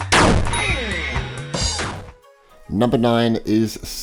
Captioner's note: electronic chiming; explosion booms; electronic chiming